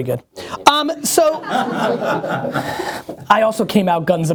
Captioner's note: laughter